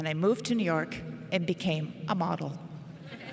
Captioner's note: laughter